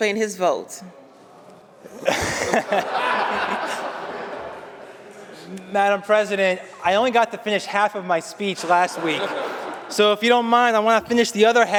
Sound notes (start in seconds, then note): 1.9 laughter